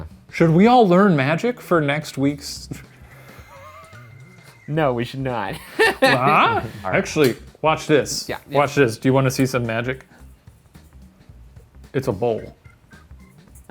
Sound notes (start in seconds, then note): 3.0 laughs softly; 5.5 laughs loudly